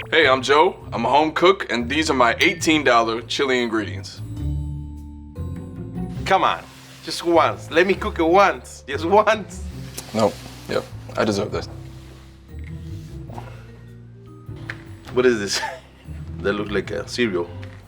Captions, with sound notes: - Hey, I'm Joe, I'm a home cook and these are my $18 chili ingredients. - Come on, just once. Let me cook it once, just once. - Nope, yep, I deserve this. - What is this? [laughs] That look like a cereal.